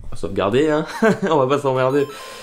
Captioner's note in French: rire